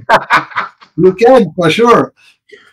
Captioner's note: laughing